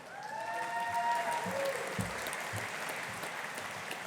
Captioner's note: audience applauding